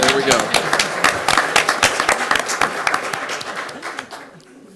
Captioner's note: clapping resumes